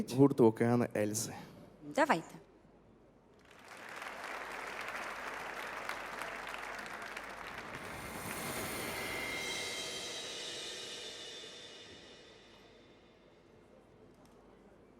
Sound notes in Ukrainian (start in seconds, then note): 6.1 оплески